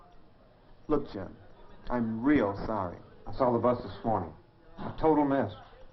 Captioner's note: none